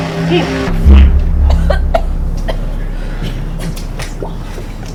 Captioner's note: victim coughing